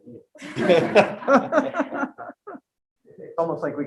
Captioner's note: group laughing